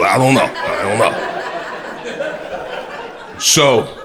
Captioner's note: crowd laughter